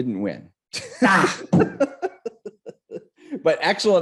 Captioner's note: laughs; grunts